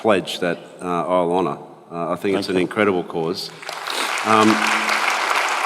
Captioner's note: applause